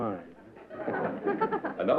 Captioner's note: laughter